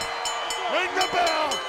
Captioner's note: bell ringing